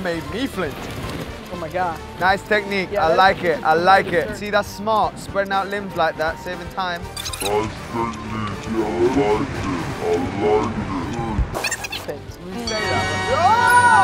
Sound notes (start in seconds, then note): 6.9 film rewinding; 11.5 film rewinding; 12.6 bell dings; 12.7 triumphant trumpet plays; 13.3 everyone exclaims